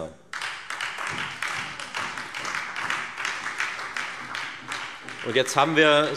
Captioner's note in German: Beifall Freie Demokraten und vereinzelt SPD